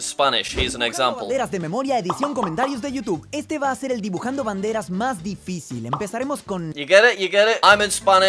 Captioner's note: speaking in spanish